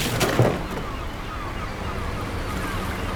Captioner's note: seagulls squawking